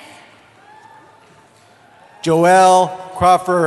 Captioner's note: cheering